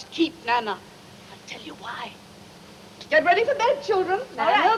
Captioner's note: whispers